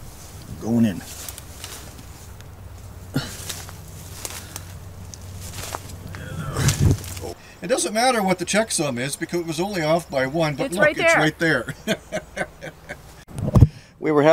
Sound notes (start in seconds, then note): 6.0 grunting; 10.7 chuckling